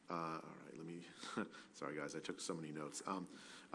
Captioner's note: laughs